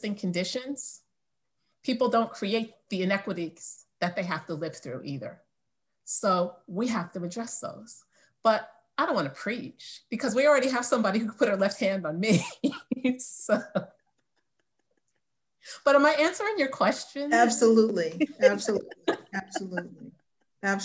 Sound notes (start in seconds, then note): 13.4 laughs